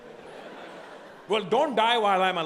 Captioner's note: audience laughing